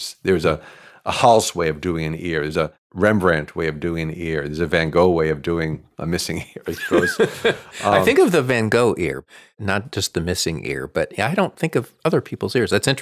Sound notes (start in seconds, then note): 6.7 laughs